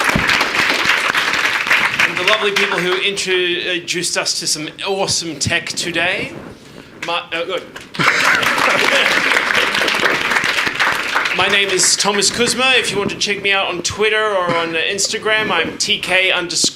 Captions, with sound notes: And the lovely people who introduced us to some awesome tech today. Ah, go on. (audience applauding) My name is Thomas Kuzma. If you want to check me out on Twitter or on Instagram, I'm tk_hubworld.